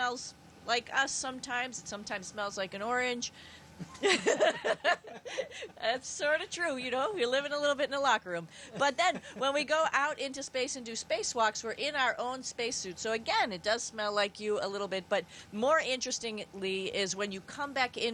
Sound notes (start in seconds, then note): 3.8 laughing